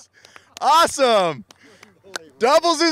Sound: clapping

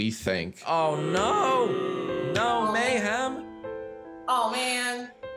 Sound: children booing

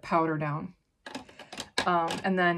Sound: makeup brushes clanking

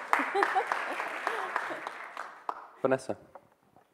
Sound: audience applauding

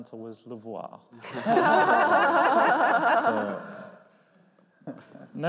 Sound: laughter

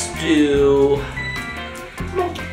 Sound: chiming

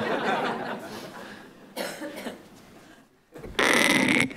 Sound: audience laughing

